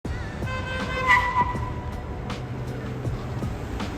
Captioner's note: car horn beeps; r&b music